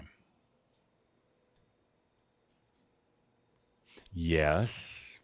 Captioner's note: slight pause